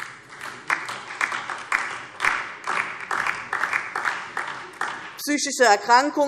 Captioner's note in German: Beifall DIE LINKE